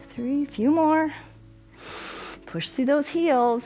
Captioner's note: inhales